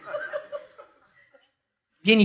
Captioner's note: laughs